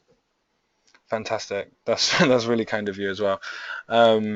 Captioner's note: chuckles